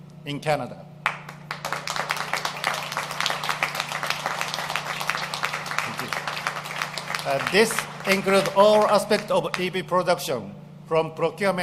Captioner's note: applause